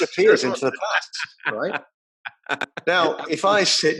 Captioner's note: laugh covers voice